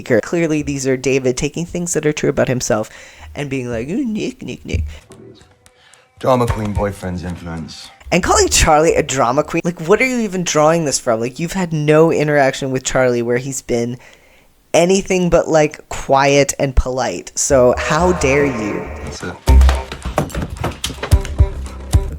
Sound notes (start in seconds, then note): 17.3 echoing